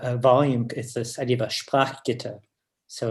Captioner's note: german